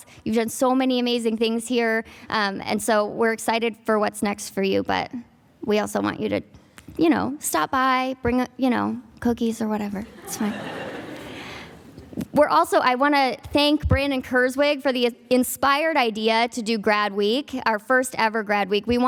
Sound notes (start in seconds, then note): 10.1 audience laughing